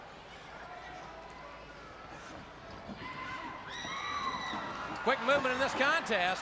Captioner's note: crowd chatter